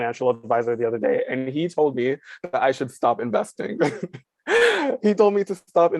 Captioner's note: chuckles